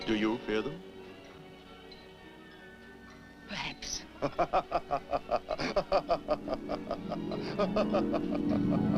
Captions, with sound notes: Do you fear them? - Perhaps. (Hercules laughs)